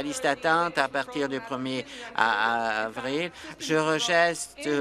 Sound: applause

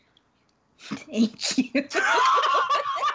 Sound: laughing; laughs

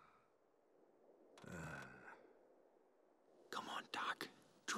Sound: Doc sighs

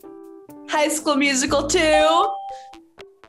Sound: bell rings

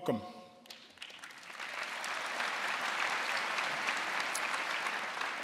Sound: audience applauding

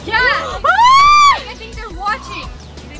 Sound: screams

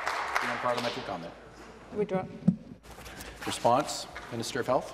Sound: applause

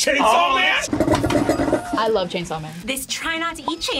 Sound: table rocking

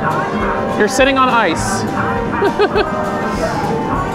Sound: laughs

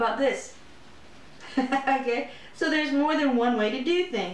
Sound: laughter

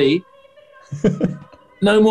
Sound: chuckling

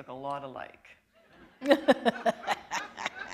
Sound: chuckle

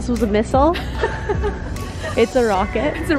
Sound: both laughing

